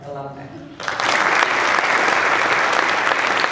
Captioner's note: applause